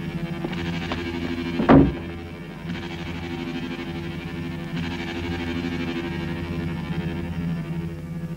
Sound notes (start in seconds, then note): 0.8 door bangs; 2.0 ominous music